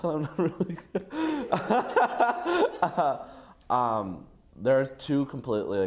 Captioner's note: nervous laughter